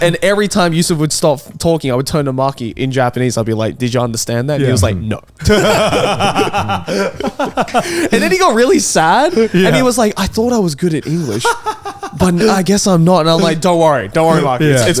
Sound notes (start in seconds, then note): 5.4 all laugh